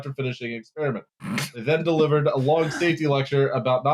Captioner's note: snorts